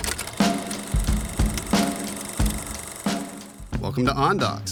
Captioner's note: reel clicking in projector